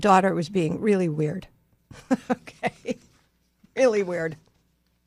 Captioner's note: laughs